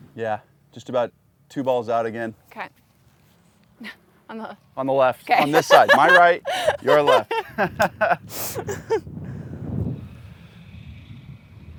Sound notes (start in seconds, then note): 5.4 laughs; 5.4 chuckles; 7.6 laughs